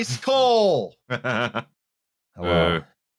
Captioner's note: chuckles briefly